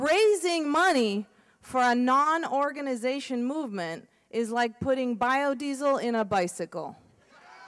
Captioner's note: slight applause/laughter